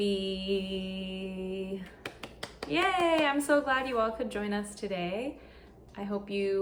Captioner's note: applause